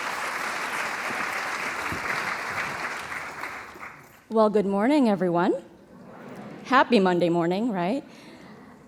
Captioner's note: applause